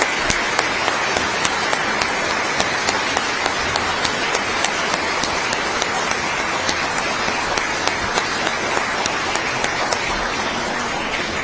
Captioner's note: applause